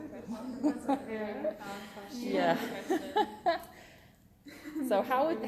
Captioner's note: laughter